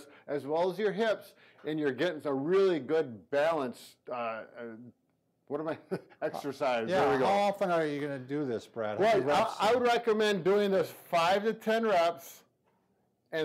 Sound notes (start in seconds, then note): 4.5 stammers